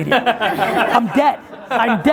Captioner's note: laughing